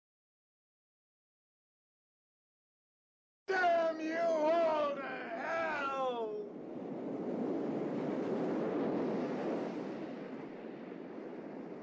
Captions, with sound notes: Damn you all to hell! (wind whirring)